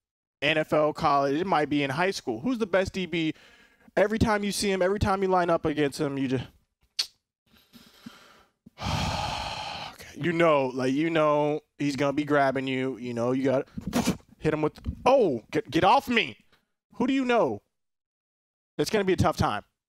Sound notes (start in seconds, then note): 8.7 sighing